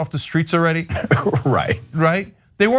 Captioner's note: laugh